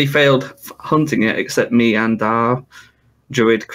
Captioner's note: none